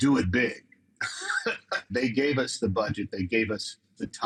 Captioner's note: chuckles